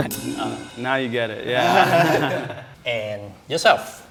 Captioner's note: men laughing